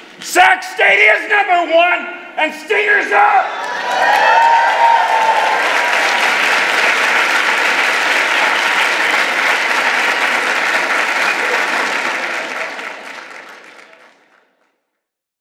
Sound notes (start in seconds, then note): 3.6 applause